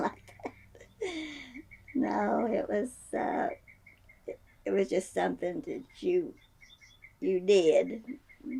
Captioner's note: laughs